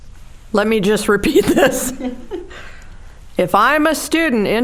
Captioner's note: laughing